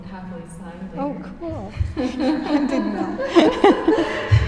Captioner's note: laughs